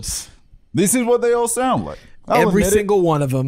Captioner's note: normal voice